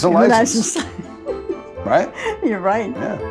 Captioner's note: laughs